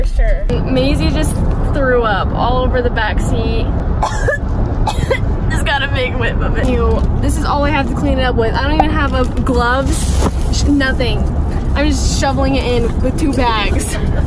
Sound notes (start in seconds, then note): 4.0 coughing